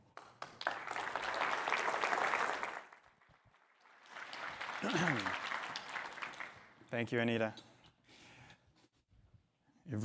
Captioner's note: applause